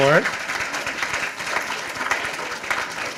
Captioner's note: applause